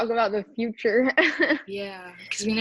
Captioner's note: chuckling